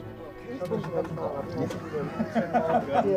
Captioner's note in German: Unheilvolle Musik; Stimmengewirr, Lachen